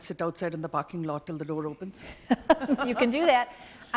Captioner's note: laughs